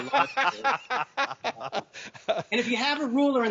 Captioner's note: doctors laughing